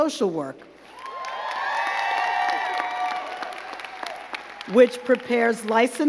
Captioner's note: crowd cheering and clapping